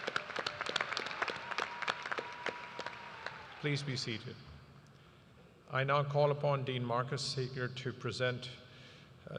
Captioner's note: applause